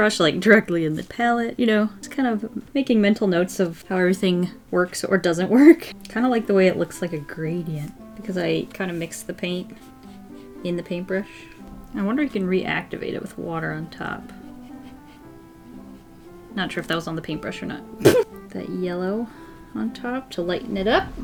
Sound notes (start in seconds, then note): 18.0 laughs